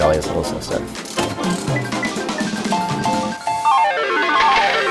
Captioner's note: slot machine whirring